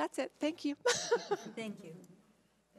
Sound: laughs

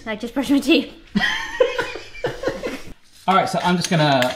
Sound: laughing

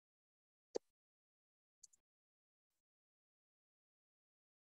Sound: silence

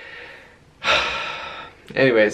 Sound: sighs

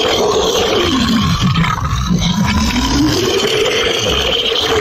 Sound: monster Roaring

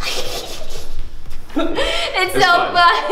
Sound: laughs

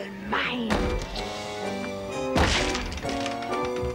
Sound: slamming

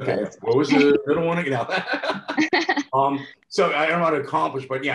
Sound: laughs

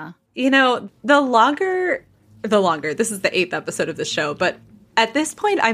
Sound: scoffs

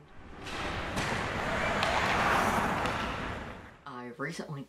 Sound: ice skates clashing and yelling

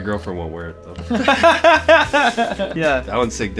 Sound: laughter

